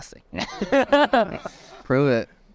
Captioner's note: everyone laughing